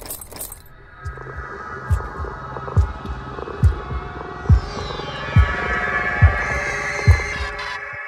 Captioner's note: intense throbbing